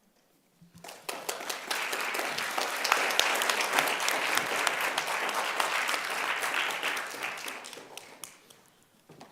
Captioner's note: applause